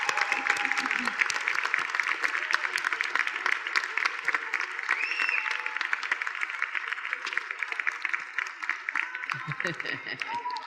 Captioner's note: applause